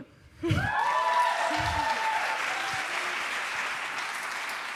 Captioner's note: cheering